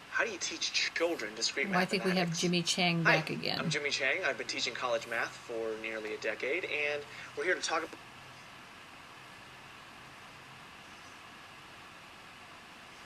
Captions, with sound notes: - [Voiceover] How do you teach children to -- - [Voiceover] I think we have Jimmy Chang back again. - [Voiceover] I'm Jimmy Chang, I've been teaching college math for nearly a decade, and we're here to talk--